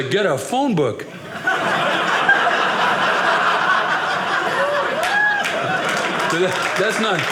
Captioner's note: audience laughing